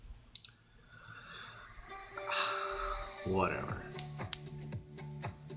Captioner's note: sighs